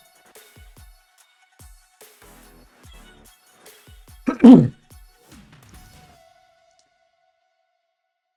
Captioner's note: clears throat